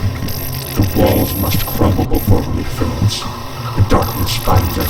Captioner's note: static drowns out talking